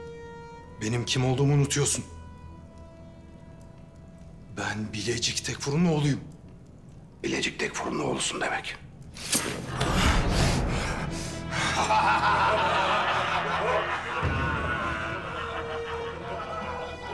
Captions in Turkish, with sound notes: Benim kim olduğumu unutuyorsun! Ben Bilecik Tekfurunun oğluyum! Bilecik Tekfurunun oğlusun demek? (Nefes sesi) (Gülme sesleri)